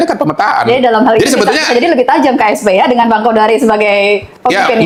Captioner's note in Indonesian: tertawa